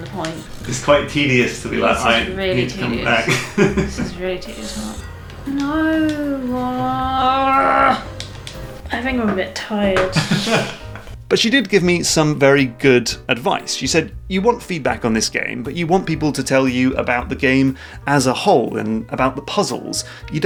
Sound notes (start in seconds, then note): 8.0 annoyed cry